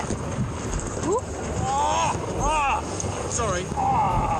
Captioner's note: man yelling in pain